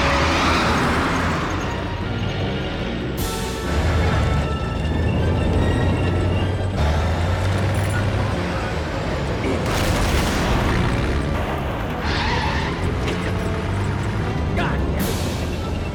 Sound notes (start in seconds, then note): 0.1 tires screeching; 2.7 tense music continues; 9.6 explosion booms; 12.5 tires screech